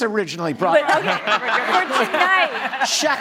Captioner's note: audience laughing